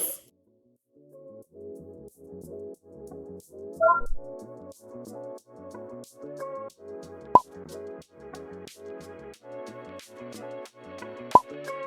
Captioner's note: robot blips, bottle cap pops